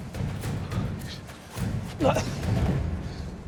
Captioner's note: grunting